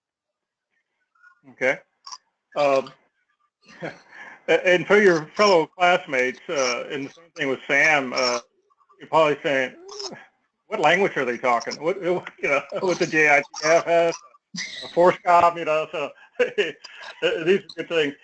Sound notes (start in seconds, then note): 3.6 laugh